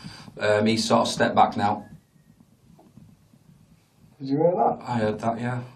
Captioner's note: microphone thudding